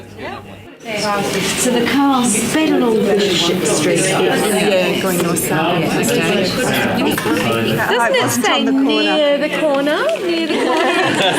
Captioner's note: audience chatter